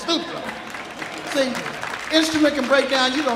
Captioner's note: audience applauding